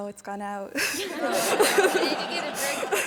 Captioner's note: all laughing